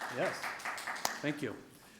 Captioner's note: audience clapping